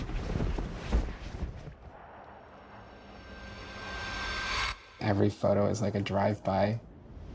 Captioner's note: wind gusting